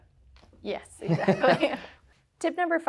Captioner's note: both laughing